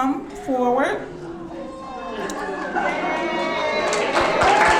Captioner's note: audience clapping